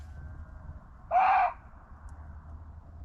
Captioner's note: muntjac barking